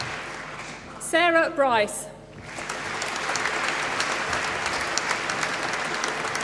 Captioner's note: applause